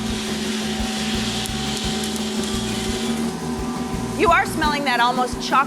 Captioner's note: machine engine humming